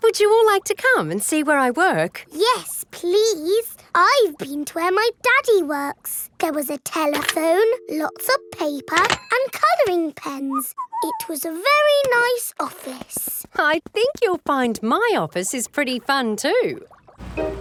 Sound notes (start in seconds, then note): 10.5 whistles